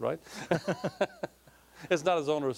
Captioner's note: laughing